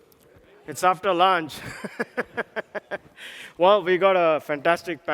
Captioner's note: laughs